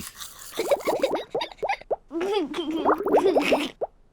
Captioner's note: giggles